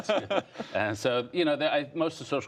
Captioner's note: laughter